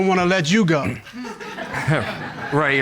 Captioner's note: audience laughs